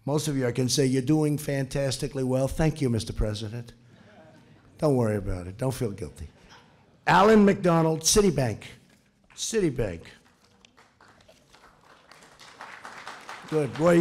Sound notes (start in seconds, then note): 3.9 laughter; 9.2 applause